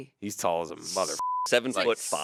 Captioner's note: beep